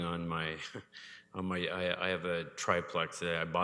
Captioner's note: chuckles